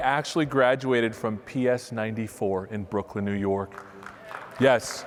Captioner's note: applause